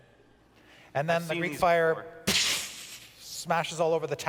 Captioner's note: splash sound